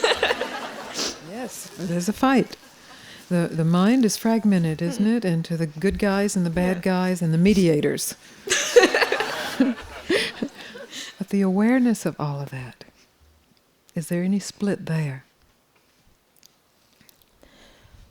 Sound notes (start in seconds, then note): 8.4 laughs